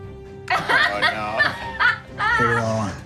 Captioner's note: laughs